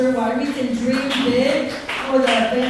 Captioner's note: clapping